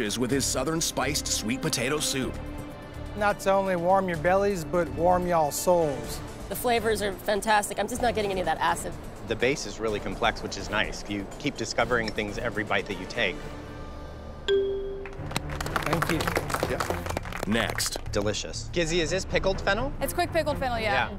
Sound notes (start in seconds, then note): 14.5 bell dings